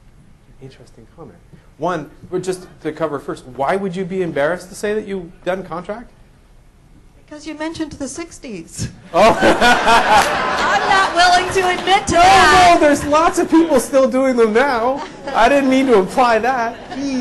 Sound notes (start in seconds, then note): 7.0 voiceover; 9.1 laughter